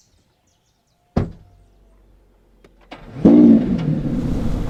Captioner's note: door slams shut; engine starts